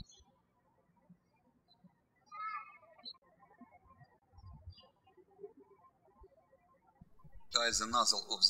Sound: birds chirping

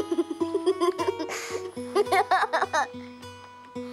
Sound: child's laughter

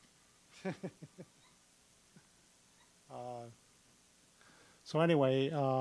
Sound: chuckling

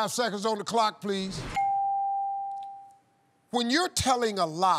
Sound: bell dings

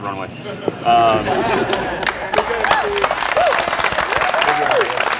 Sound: laughing and applauding

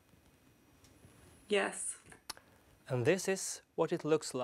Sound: voiceover

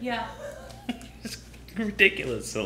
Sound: laughing

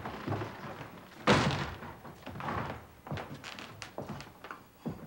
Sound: door slamming

